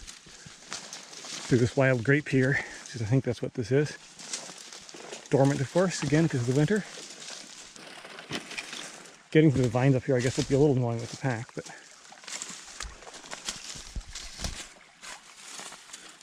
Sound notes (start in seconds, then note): 0.2 branches rustling; 4.5 branches rustling; 8.3 leafless vines rustling; 13.1 sticks crunching